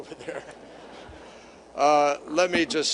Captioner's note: laughter